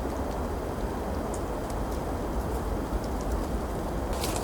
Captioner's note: windy